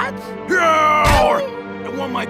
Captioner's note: yells; Gaylord_Steambath yelps weakly